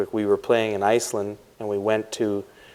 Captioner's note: none